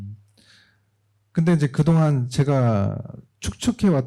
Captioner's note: speaking korean